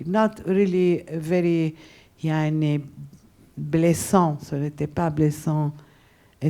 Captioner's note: speaking a foreign language